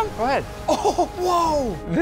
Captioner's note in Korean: 웃음